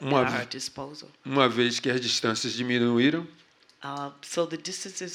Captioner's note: speaking portuguese